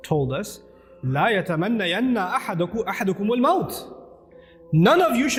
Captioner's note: Arabic